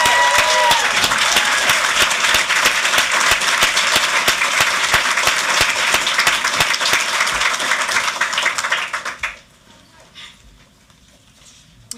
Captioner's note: applause